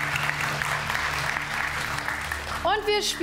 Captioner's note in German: Applaus